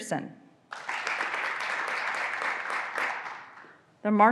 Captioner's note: graduands applauding